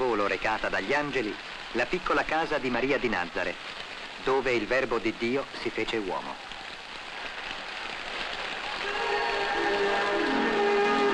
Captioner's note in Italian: Applauso